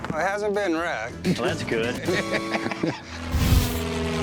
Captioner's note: laughter